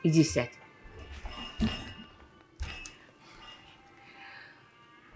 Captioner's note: pauses 12 seconds